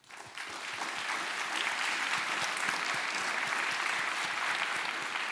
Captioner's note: applause